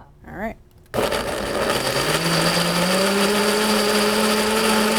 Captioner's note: blender whirs